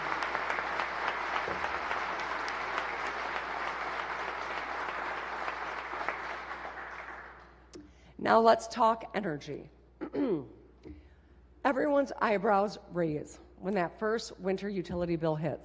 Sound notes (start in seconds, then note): 0.0 applause